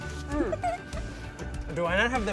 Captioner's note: laughs